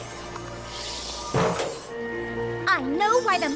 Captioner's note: thunk